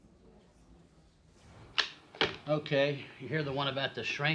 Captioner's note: none